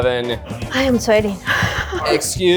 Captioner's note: laughs